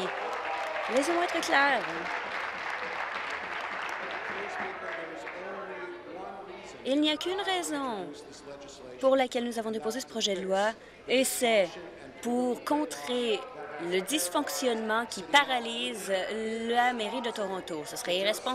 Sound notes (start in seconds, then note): 3.9 applause